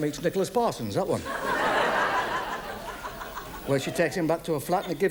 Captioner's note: audience laughs